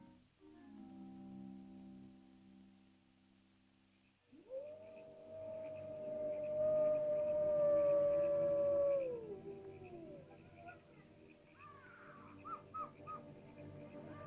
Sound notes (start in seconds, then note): 4.3 animal howls; 4.6 ominous music; 11.5 animal chirping sounds